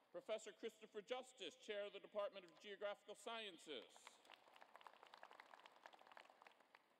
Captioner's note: applause